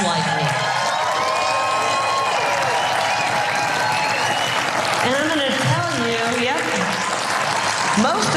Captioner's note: applause